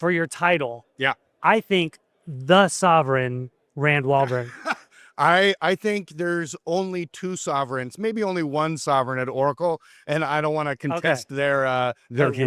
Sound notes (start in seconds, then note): 4.2 giggles